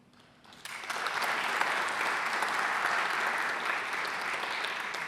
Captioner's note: audience applauding